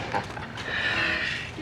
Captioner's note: laughs